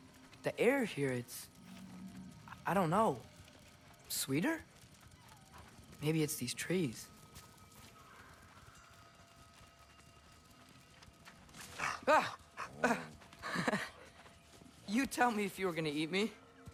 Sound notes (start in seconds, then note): 11.8 laugh